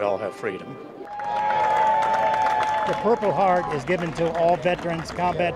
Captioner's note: cheers and applause